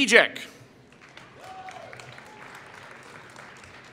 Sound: applause

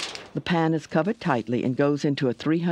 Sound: voiceover

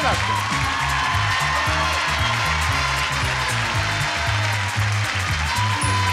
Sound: audience applauding; upbeat music

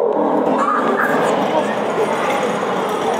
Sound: saber-tooth tiger roars; child giggles

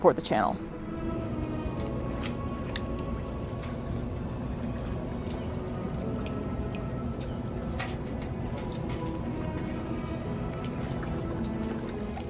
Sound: background music; gentle water splashing sounds

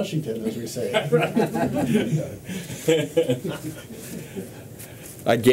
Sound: laughter

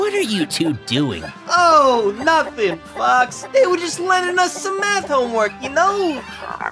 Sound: chicken sounds; croak

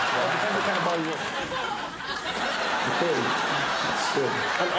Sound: laughter

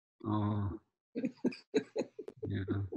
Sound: Kara laughing

